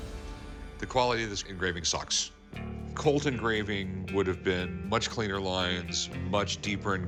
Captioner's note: none